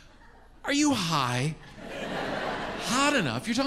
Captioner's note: audience laughs